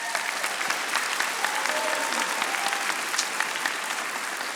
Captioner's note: audience applauding